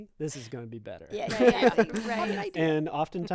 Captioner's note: group laughing